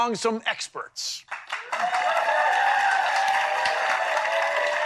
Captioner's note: crowd whooping and applauding